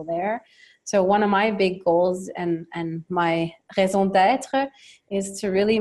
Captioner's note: speaks French